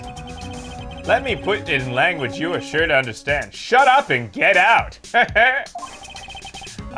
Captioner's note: cocky laugh